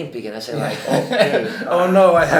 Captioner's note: both laugh